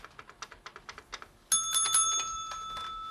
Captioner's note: dinging bell